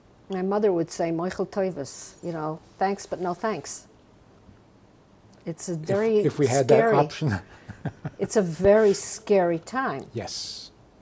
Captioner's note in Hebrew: הביטוי נאמר ביידיש